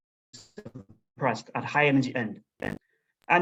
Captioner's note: audio glitches